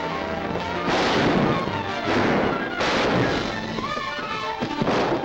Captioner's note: guns firing; thrilling music